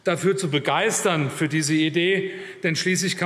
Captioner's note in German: none